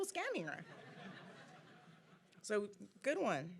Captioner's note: audience laughing